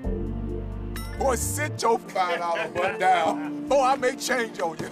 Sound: laughing

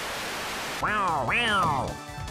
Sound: shy guy noises

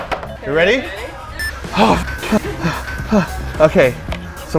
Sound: timer starts; mumbles

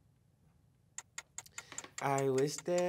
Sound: timer ticking

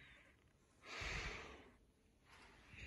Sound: sigh

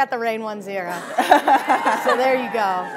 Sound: laughing; audience cheering

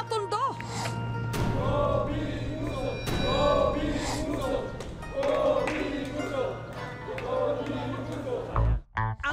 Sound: chanting

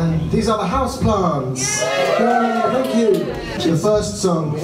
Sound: crowd cheering

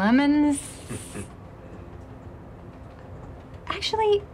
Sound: chuckle

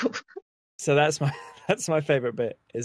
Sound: laughs

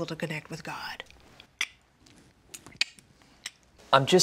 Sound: tongues clicking

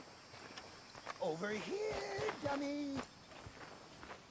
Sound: whispers

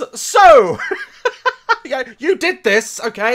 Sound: laughs

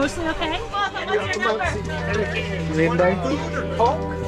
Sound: crowd chattering

